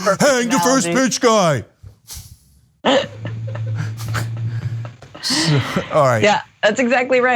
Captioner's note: laugh